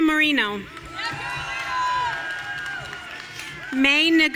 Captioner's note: audience cheering